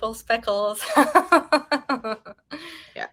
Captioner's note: woman laughing